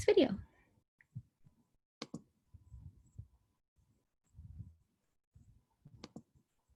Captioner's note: clicking